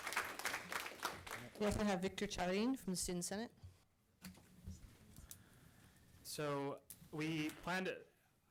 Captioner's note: applause